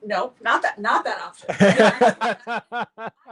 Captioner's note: laughter